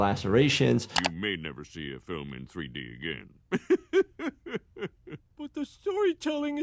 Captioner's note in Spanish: risas